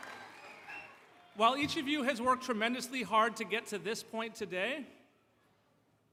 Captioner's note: applause